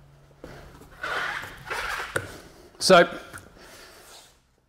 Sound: tyre squeaks

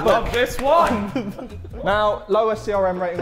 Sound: Sidemen laughing

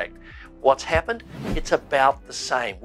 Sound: air whooshing

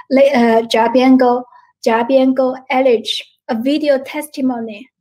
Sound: foreign language

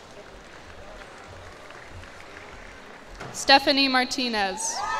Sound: cheers and applause

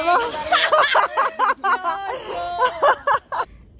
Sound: guffaws

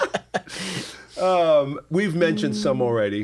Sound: laughter

